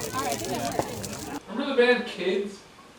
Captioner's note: crowd murmuring